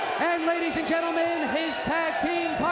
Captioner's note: crowd cheering